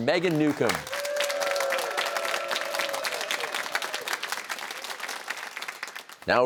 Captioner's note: cheers and applause